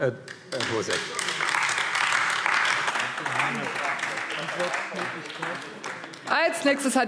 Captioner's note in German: Beifall AfD